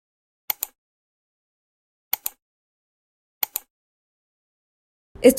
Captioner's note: clicking sounds